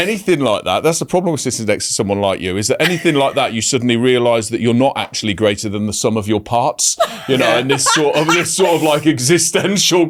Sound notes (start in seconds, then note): 7.0 laughing